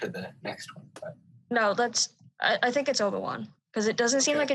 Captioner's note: none